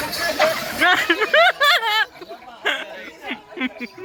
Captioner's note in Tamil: சிரிப்பு